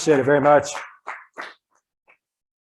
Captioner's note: audience clapping